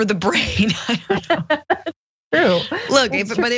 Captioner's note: laugh